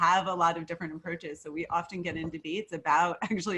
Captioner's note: chuckles